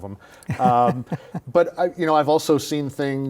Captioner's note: laughs